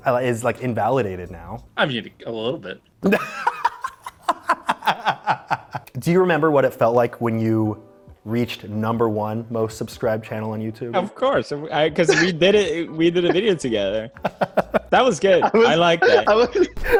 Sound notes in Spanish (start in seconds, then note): 3.0 risas